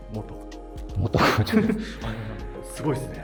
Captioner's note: laughing